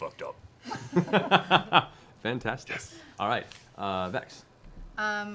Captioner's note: laughs